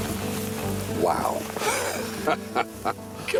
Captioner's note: laughs